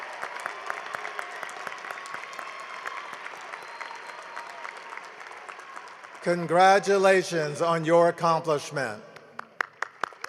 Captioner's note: cheering and applause